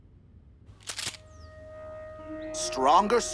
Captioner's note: guns cocking